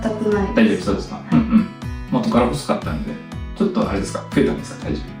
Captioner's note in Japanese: 咳払い